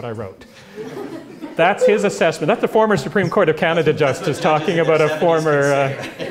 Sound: laugh

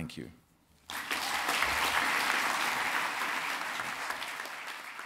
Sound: applause

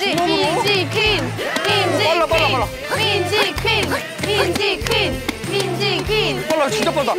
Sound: They're chanting 'Minji Queen'

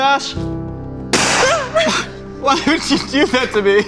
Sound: loud pop

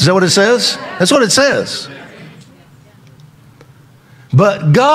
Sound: congregation agrees

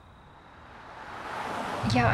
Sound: car speeds

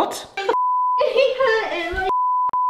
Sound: beeping; beep

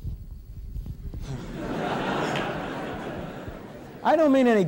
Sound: laughter in audience

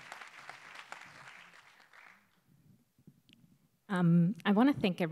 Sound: applause

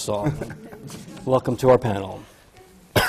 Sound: laughs

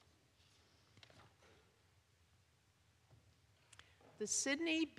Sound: none

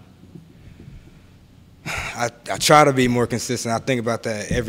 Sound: sighs

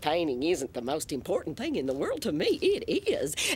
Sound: none

